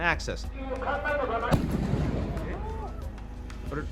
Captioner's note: gunshot booms